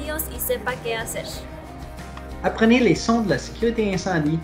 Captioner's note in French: parlant français